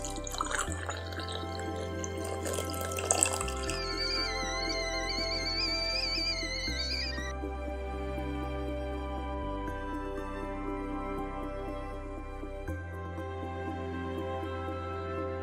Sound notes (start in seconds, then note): 0.0 coffee bubbling; 3.8 kettle whistling